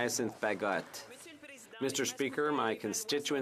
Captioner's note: some Applause